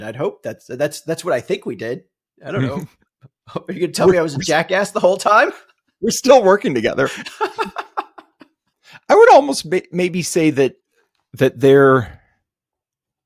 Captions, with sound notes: I'd hope that's what I think we did. I don't know. Are you gonna tell me I was in jackass the whole time? We're still working together. (laughs) I would almost maybe say that there,